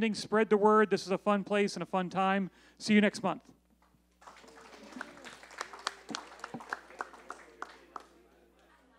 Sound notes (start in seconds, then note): 4.2 applause